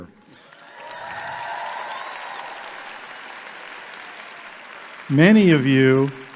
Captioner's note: audience clapping and cheering